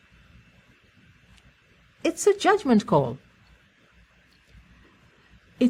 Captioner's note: pause